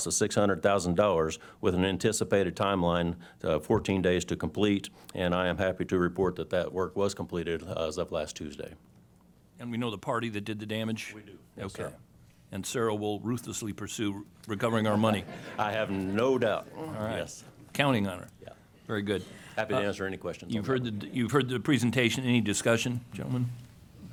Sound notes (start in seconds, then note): 14.9 laughter